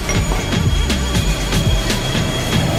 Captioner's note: glasses clink; intense music